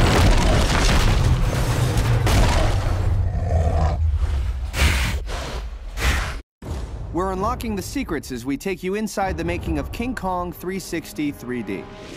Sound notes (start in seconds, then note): 0.0 crashing; 3.2 snorting